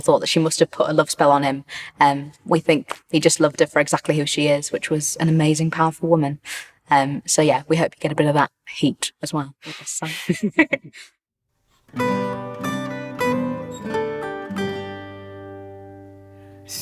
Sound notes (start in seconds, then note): 10.0 laughs; 12.0 upbeat music